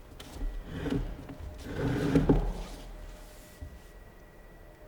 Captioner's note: chair scraping